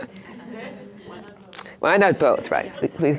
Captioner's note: voiceover